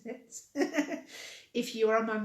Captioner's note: laughing